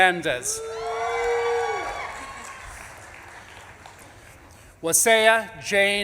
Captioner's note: audience claps and cheers